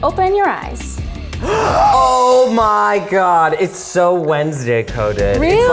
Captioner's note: gasps